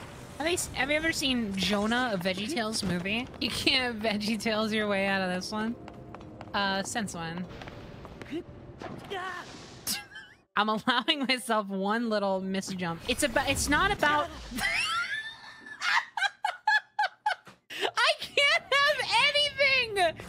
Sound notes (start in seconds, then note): 9.9 quiet Laugh; 14.5 laughter